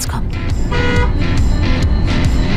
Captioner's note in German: Hupen, lässige Musik